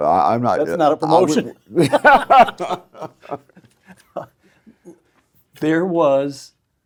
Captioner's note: laugh